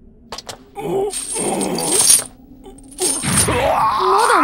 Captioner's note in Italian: gemiti di dolore